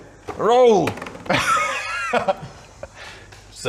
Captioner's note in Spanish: Risas